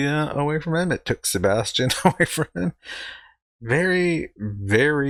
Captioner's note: chuckling